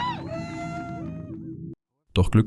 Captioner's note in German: schreien